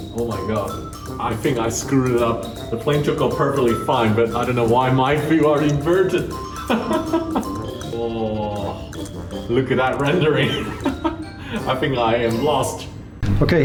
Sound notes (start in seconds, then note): 6.4 laughs; 10.6 laughs